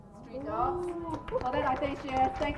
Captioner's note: applause